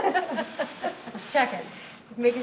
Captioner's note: laughter